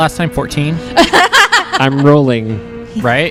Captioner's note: laugh